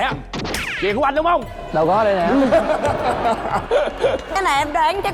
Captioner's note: laughing